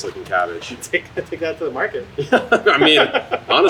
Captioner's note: laughing